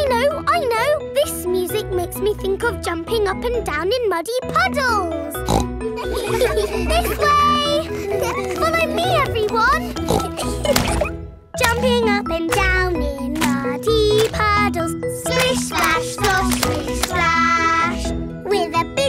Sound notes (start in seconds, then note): 5.4 snorts; 5.9 giggles; 9.8 snorts; 11.0 giggling